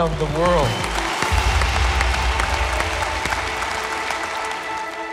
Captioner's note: audience applauding; light melodic music